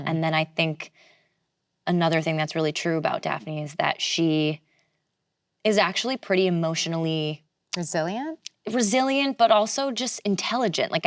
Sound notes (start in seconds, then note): none